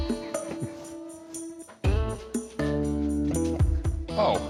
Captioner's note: laughs